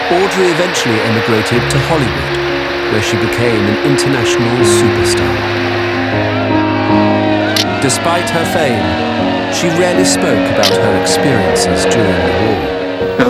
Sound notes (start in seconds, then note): 0.0 crowd applauding; 5.8 people cheering; 5.8 uplifting music